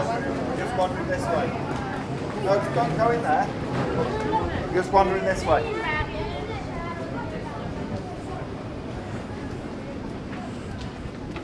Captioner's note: people Speaking